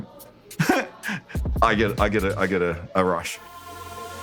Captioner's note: chuckles